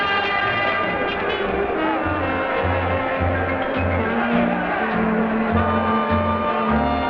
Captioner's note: crowd conversing quietly; slow dance music